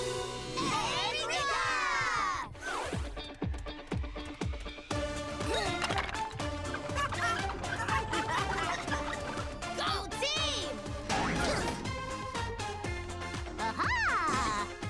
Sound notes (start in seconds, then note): 2.5 upbeat music; 4.4 grunting; 6.6 laughing; 10.7 grunting